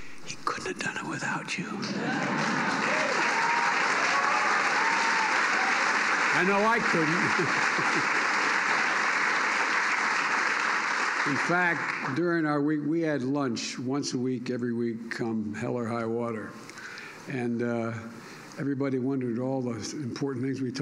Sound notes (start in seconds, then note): 1.8 applause; 6.8 laughs